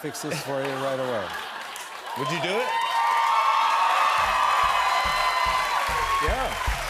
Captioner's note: cheers and applause